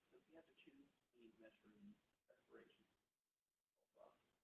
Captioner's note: people talking